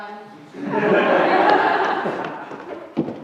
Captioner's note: laughter